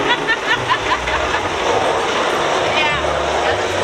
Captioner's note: laughs heartily